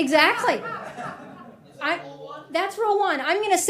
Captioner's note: attendees laughing